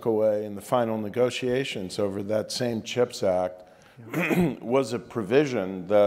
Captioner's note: cough